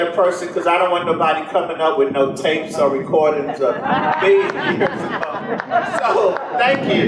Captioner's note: general laughter